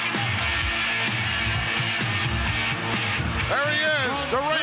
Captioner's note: bell rings